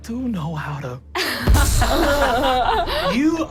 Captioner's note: giggles; smash